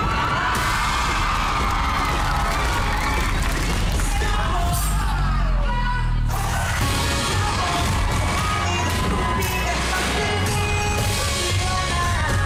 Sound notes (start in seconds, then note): 0.0 audience cheering, applauding; 8.3 audience loud cheering